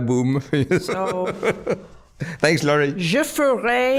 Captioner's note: laughing